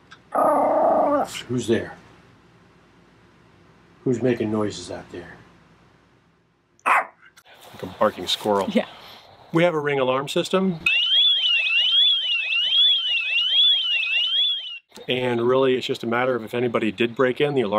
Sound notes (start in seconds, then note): 0.3 Daisy growls; 6.8 Daisy barks; 10.8 alarm rings